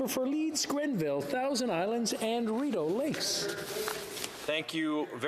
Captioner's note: speaking French